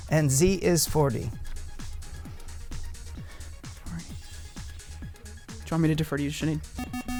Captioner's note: wispering